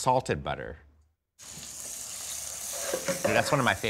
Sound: sizzling

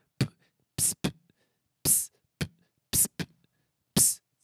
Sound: beatboxes

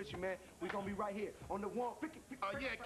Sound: makes record scratch noises

